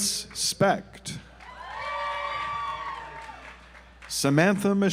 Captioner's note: audience applauds